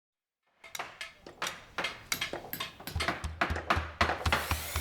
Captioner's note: construction noises